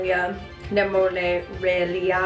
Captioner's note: stutters